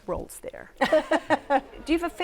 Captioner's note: laughter